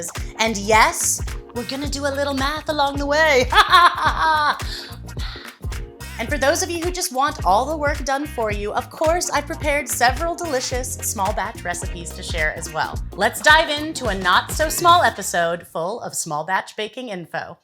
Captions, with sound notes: And yes, we're going to do a little math along the way. [laughs] Math. And for those of you who just want all the work done for you, of course I've prepared several delicious small batch recipes to share as well. Let's dive in to a not so small episode full of small batch baking info.